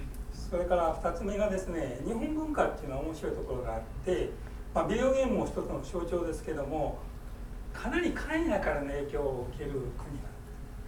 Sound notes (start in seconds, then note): 0.6 speaking in foreign language